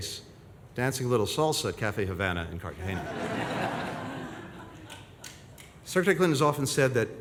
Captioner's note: laughter